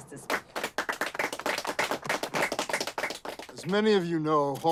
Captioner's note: crowd clapping